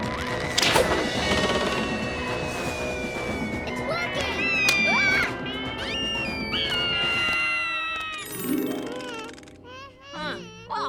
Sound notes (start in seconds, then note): 0.2 mysterious music; 0.5 catapult whooshing; 1.4 all whistling through air; 3.9 Max screams; 5.7 Lizbeth screaming; 5.9 wings flapping; 8.3 dreamy harp; 8.4 max whining nervously